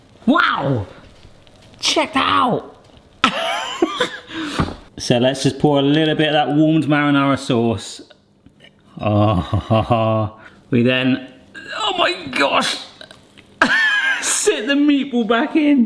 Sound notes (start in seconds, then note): 3.2 laughs; 9.0 groans